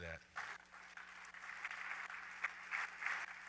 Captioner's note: applause